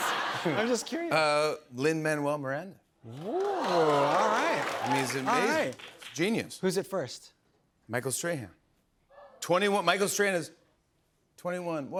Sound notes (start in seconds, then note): 3.1 cheering